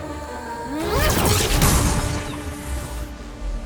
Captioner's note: sharp zapping